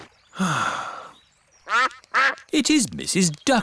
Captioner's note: sighs; quacking